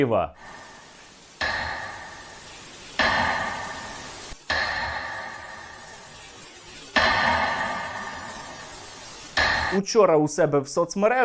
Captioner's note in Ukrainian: звук годинника